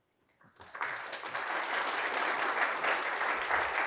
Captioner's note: applause